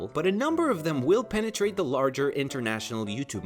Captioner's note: none